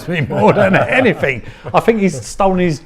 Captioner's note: laughing